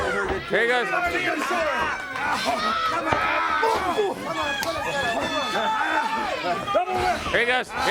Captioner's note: crowd chatter